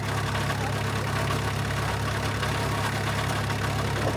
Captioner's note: machinery humming